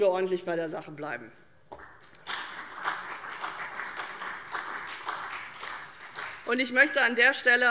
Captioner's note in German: Beifall CDU und vereinzelt BÜNDNIS 90/DIE GRÜNEN